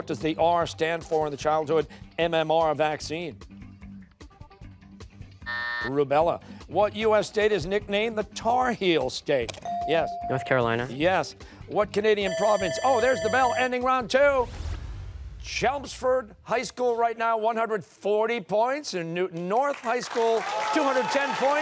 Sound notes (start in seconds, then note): 5.4 buzzer; 12.2 bell rings